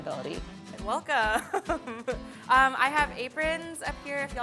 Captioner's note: laughing